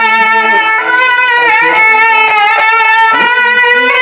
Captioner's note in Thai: ปรบมือ